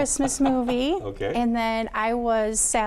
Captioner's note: laughs